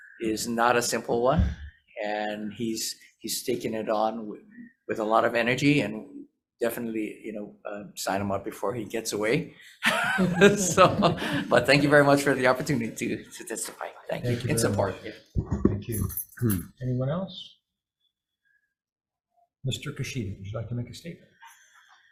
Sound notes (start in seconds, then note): 9.8 people laughing